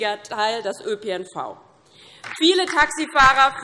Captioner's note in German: Beifall DIE LINKE und vereinzelt AfD